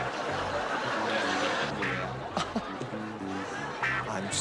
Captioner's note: laughter